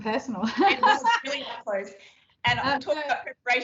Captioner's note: both laugh